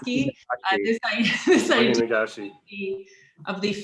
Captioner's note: chuckles